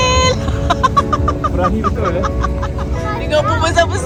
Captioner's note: laugh